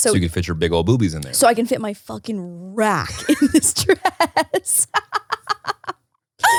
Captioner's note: laughing